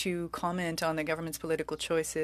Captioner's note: speaking French